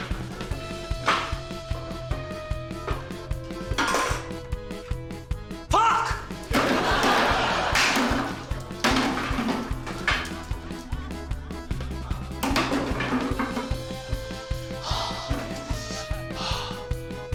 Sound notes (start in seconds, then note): 6.5 laughter; 8.9 cans clatter; 14.6 sighs